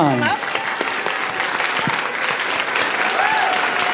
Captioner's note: applause